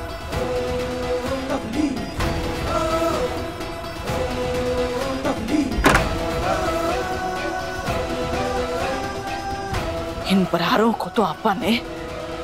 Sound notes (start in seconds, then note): 0.1 background music; 5.7 door closes